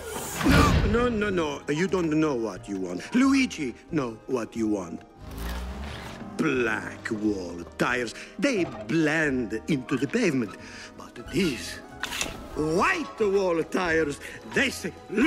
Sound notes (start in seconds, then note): none